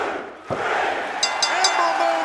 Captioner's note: bell